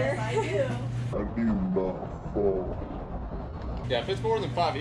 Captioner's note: deep, slow motion voices mumbling